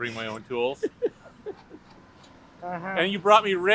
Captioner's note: laughs